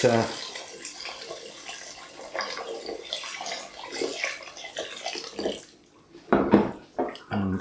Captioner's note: splish splosh splash